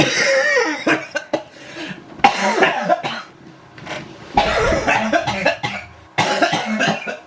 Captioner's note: laughs so hard he falls onto the floor in a coughing fit